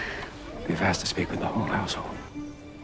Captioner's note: voiceover